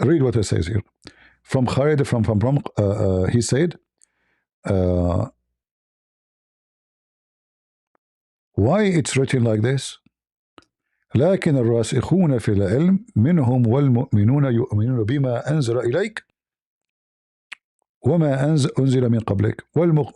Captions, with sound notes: read what it says here from from he said uh why it's written like this? (Reads in Arabic)